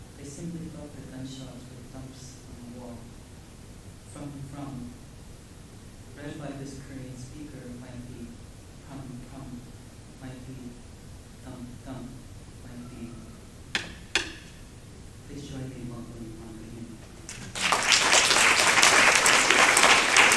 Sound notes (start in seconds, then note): 13.7 clank, clank; 17.2 applause